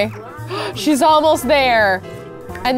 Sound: gasps

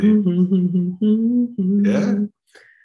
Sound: humming

